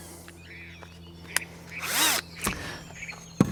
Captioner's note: drilling